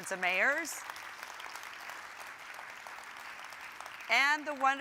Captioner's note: audience applauding